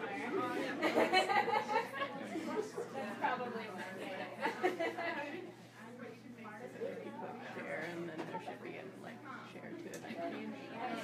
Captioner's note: people laughing